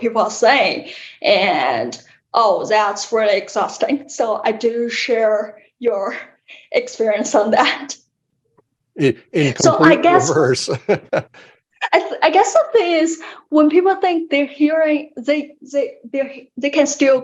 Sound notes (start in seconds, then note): 12.0 laughs